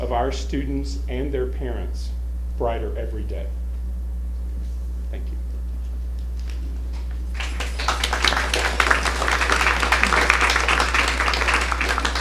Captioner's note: applause